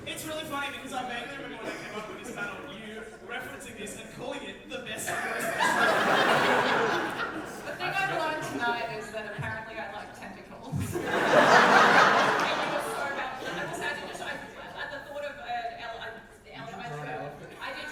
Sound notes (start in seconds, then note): 5.0 audience laughter; 10.9 audience laughter